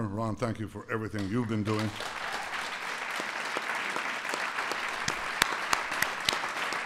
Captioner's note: applause